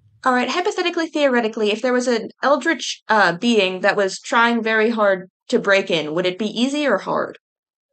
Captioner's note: none